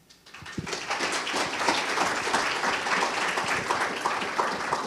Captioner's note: audience applauding